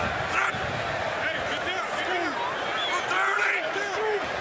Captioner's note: shouting